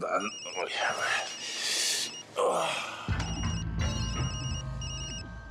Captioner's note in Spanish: suena el celular